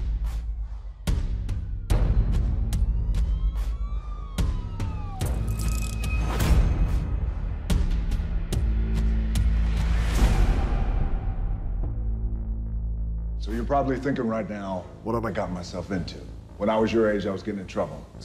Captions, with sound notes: [SIRENS] So you're probably thinking right now, what have I gotten myself into. When I was your age, I was getting in trouble,